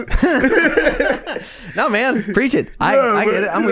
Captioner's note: laughing